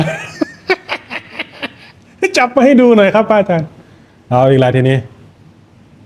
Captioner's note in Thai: เสียงหัวเราะ